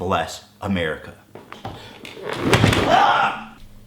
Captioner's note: chair falling